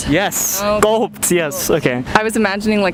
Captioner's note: gulp